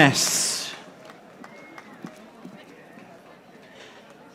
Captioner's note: audience applauding